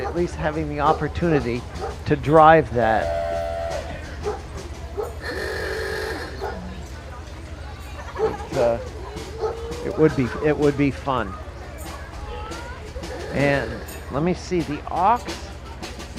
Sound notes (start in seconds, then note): 5.0 tires screeching